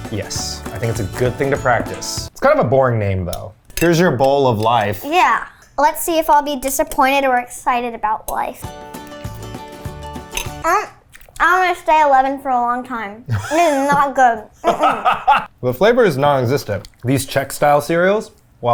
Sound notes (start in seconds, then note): 8.6 uplifting instrumental music; 10.8 moans; 14.6 laughs